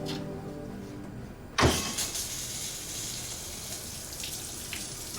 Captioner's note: water running